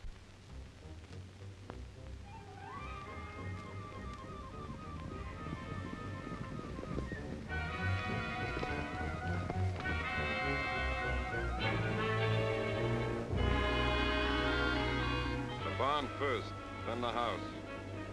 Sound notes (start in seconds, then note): 2.7 hooves pounding; 2.7 ominous music